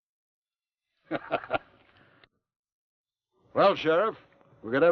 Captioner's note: Theodore laughs